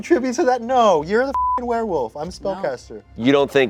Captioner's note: beep